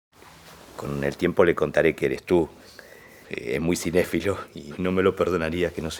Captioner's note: speaking in foreign language